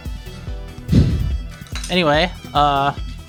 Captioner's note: sighs